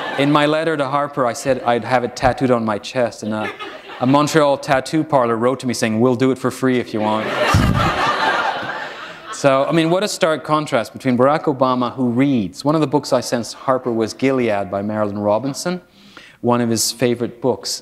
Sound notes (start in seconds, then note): 7.0 laughter